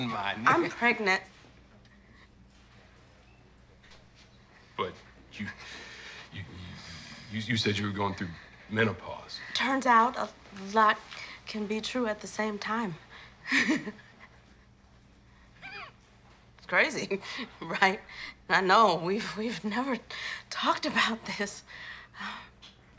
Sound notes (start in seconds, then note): 13.4 laughs